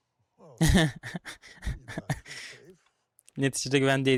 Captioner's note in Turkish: kahkaha